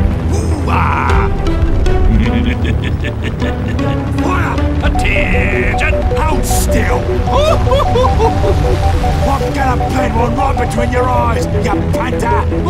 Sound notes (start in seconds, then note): 2.0 The Bosvark laughs; 7.3 The Bf 109 F laughs